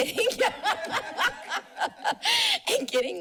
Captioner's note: laughter